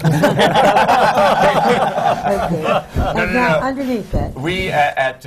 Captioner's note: laughter